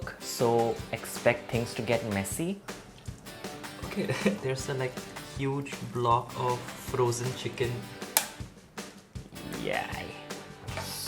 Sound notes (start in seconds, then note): 8.1 cracking egg